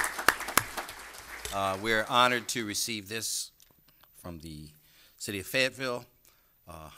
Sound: applause

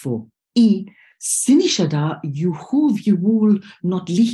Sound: non-english speech

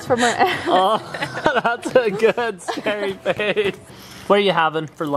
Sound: ckuckling

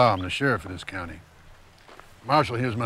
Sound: none

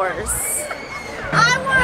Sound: laughing

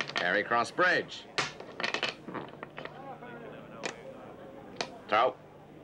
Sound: dice rattling; people chattering

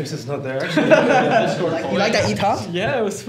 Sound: all laughing

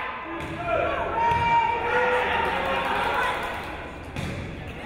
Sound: crowd cheering

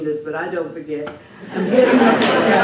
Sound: laughter

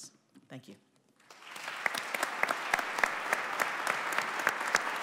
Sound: audience applauding

